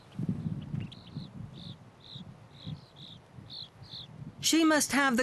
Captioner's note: chirping